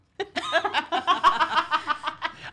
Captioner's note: laughs